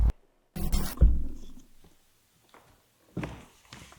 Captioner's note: static crackling